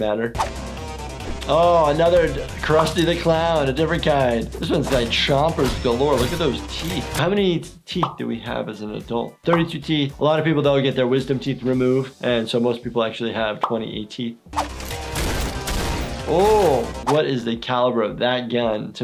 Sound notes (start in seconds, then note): 0.2 active music; 14.6 gun shots; 16.0 active music